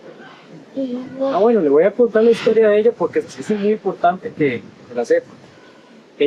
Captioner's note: in Spanish